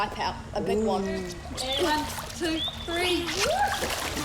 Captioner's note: exclaims